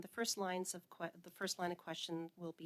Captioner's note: speaking French